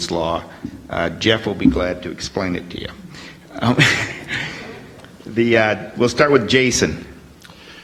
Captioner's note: laughs